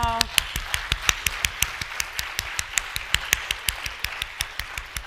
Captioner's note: audience applauding